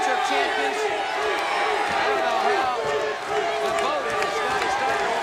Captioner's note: audience barks